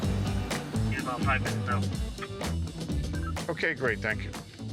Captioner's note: walkie-talkie bleeps